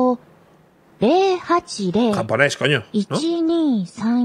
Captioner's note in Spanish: habla en un idioma extranjero